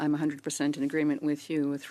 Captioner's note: speaking in French